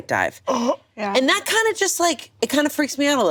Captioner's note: gasps